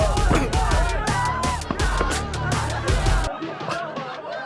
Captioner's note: thudding; Danny laughs